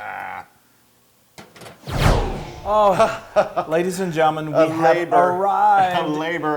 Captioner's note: laugh